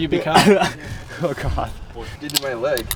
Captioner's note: man laughing